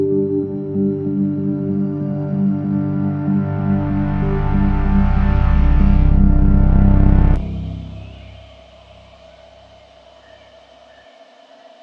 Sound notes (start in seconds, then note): 7.4 birds chirping